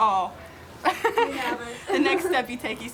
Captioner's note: laughs